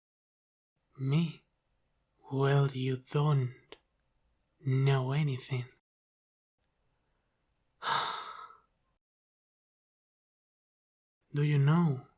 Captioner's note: sigh of despair